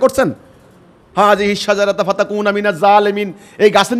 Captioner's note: Arabic